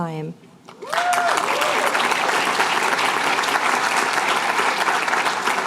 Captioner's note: applause